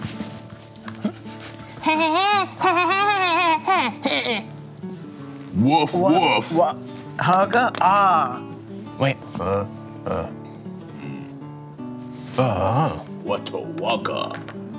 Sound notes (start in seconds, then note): 2.7 grunts excitedly; 10.0 grunts decisively